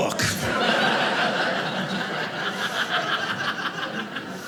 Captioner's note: audience laughing